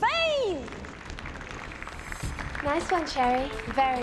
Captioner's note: applauding